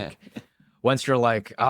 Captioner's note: laughs